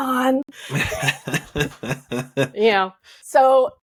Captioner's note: laughing